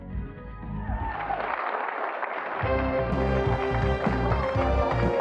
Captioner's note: audience applauds